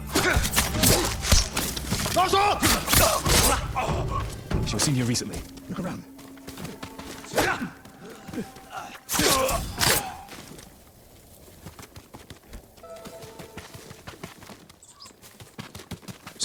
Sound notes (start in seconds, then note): 0.1 gunfire; 2.4 yelling; 7.4 yelling; 10.1 yelling